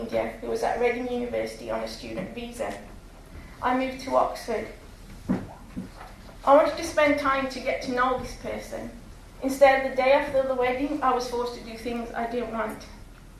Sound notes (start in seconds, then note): none